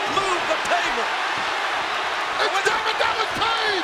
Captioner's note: crowd cheering